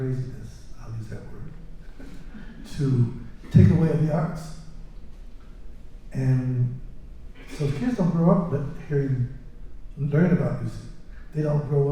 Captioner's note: laughter